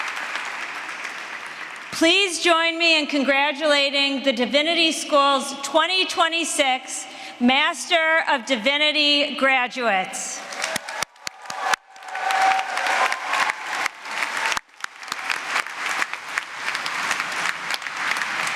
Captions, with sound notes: Please join me in congratulating the Divinity School's 2026 Master of Divinity graduates. [APPLAUSE]